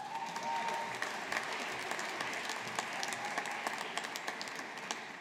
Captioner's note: audience applauding